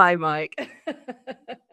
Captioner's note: laughs